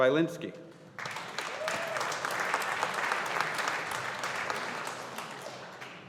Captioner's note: audience applauding